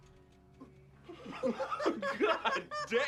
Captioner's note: both laugh